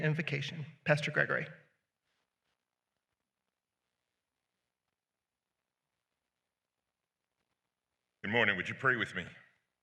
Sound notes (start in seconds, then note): 2.2 silence